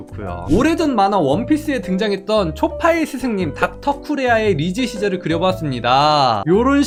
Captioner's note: voiceover